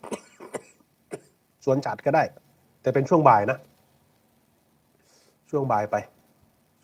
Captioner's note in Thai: เสียงไอ